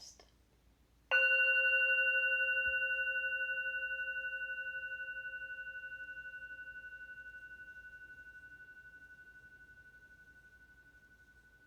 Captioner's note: meditation bell rings